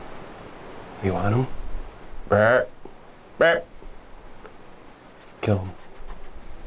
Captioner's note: deer call grunting